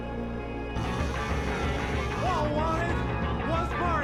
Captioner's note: phone rings